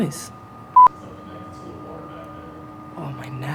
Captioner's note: electrical humming